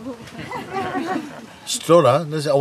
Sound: Lachen

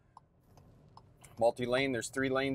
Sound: car signal ticking

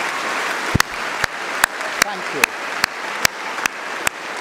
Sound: applause

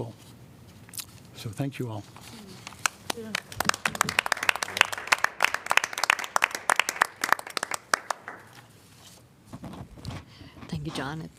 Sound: applause

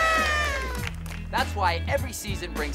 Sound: horn blows

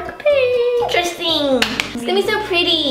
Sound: claps

